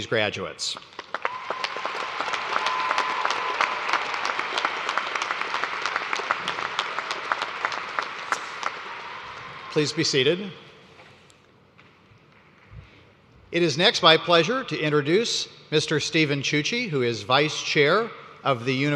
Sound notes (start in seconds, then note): 3.1 cheers and applause